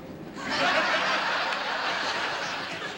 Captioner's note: laughter